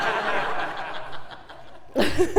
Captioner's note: laugh